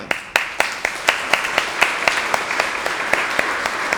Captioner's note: audience applauds